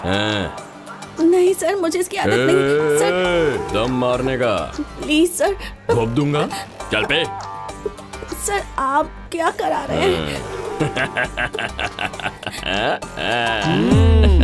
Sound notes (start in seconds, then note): 10.8 laughs